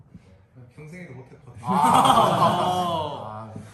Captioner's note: everyone laughs